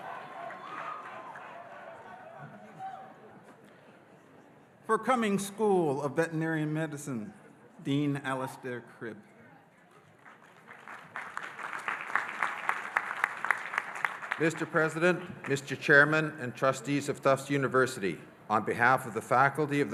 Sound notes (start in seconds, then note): 0.0 audience cheering; 10.2 audience applauding